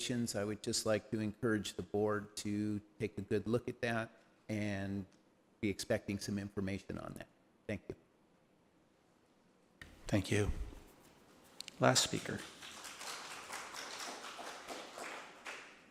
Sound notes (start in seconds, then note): 11.9 applause